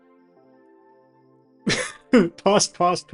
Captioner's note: laughs